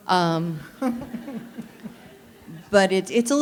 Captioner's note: audience laughing